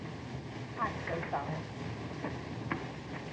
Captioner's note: mrs. potter muttering angrily